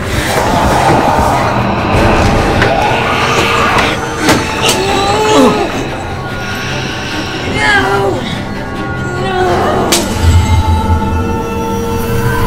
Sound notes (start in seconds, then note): 0.4 growling; 4.6 grunting